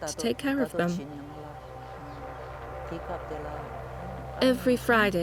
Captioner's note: speaks foreign language